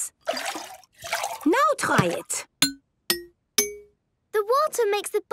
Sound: pitched tinks

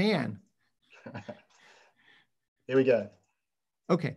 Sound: chuckles

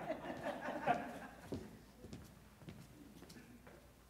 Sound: laughter

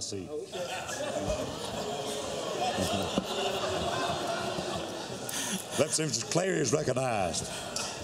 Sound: laughter

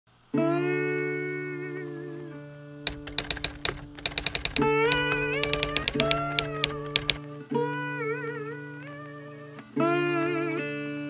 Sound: typewriter keys

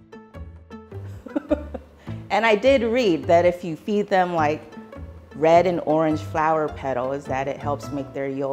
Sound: laughs

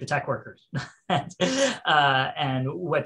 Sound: laughing

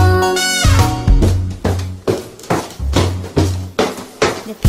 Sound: feet stomping

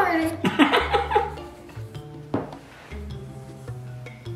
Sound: laughing

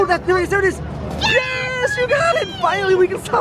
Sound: cheers

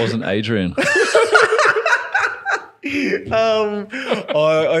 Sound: laughing

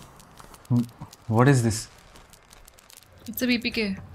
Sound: new year crackers start bursting

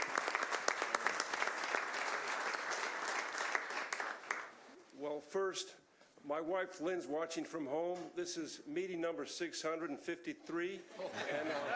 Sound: applause

